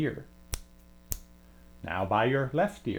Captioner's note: snaps